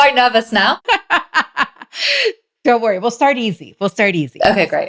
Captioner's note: laughs